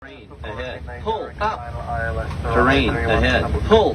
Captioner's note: radio chatter